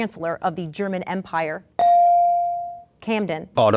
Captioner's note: ding